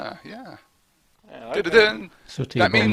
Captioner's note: phone text message tone